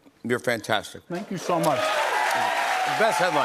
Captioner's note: cheers and applause